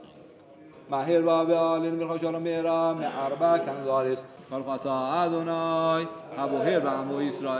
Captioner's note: Arabic spoken language